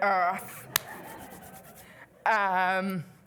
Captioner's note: laughter